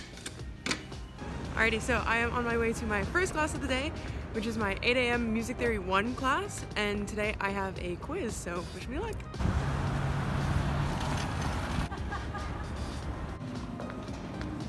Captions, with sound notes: Alrighty, so I am on my way to my first class of the day which is my 8 a.m. Music Theory I class and today I have a quiz so wish me luck! [Street traffic]